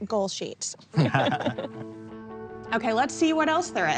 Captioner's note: both laugh